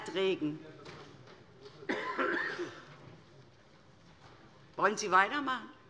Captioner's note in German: Fortgesetzte Zurufe BÜNDNIS 90/DIE GRÜNEN und Freie Demokraten